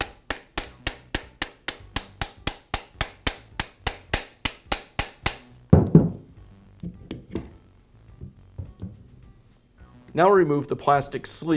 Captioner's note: hammering